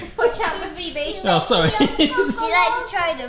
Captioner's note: laughs